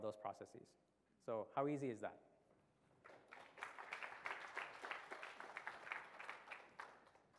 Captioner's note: applause